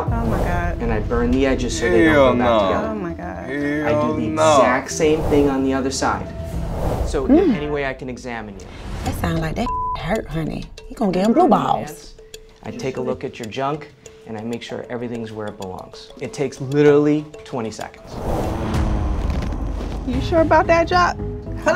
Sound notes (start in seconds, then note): 9.6 beep; 18.0 whooshing